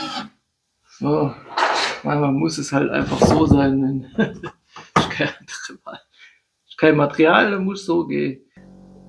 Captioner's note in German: gelächter